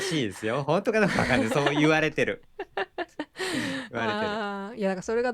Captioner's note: laughter